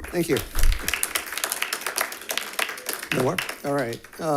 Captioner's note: members clapping